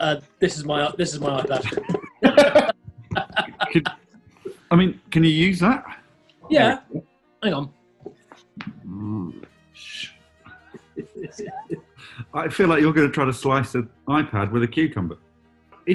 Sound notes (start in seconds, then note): 0.8 laughter; 1.6 taps ipad; 8.4 growls; 10.5 chuckling